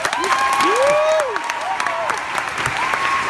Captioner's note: applause